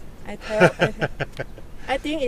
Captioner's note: laughter